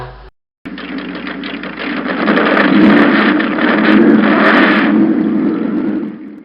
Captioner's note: motorcycle Engine